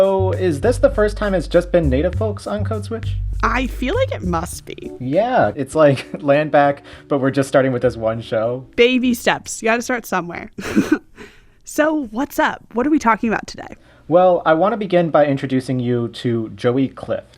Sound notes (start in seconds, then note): 10.6 laughter